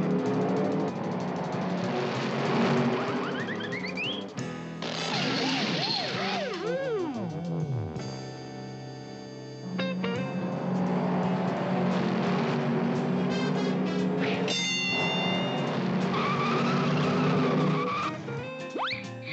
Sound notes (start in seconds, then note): 5.0 siren blares, fades and stops; 16.0 tires screech